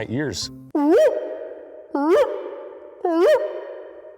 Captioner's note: howling